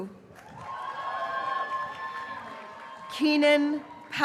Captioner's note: graduates cheering